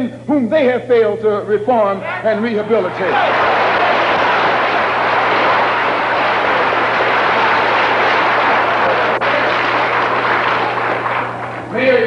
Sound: thunderous applause

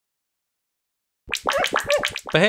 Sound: Learndog barks; wet clap sounds

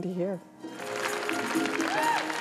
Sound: cheers and applause

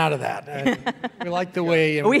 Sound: laughing

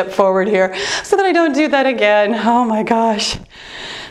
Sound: exhales

